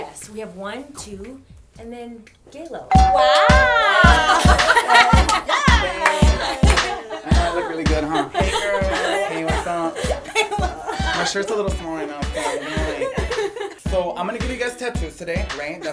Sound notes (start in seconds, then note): 2.9 doorbell rings; 4.6 laughter